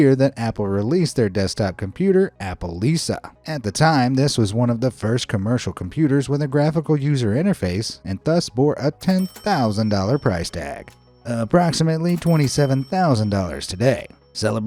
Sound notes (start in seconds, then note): 9.0 cash register dings